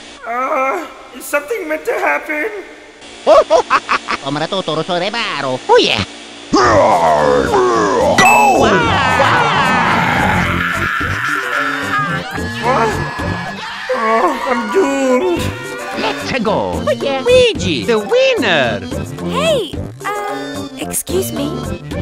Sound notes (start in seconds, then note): 1.6 sigh; 6.6 Bowser's battle cries; 10.3 screaming like a biatch